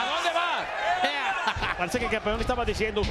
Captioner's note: laugh